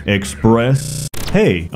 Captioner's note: static